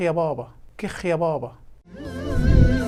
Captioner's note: egyptian sarcasm